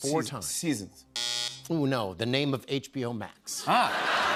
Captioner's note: buzzer